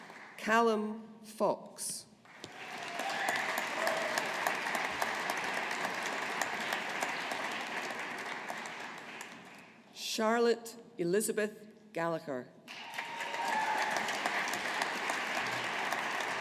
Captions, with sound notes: Calum Fox. (AUDIENCE APPLAUDING) Charlotte Elizabeth Gallagher. (AUDIENCE APPLAUDING)